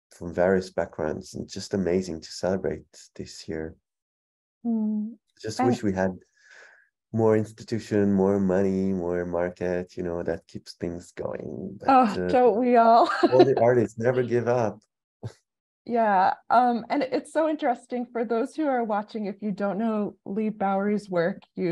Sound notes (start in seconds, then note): 13.0 laughs